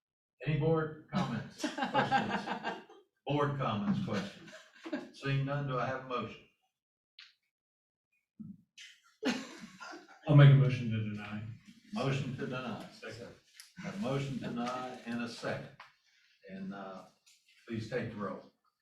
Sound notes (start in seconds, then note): 1.5 laughter? - for some reason; 9.2 more laughing?